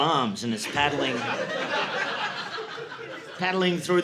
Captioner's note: audience laughing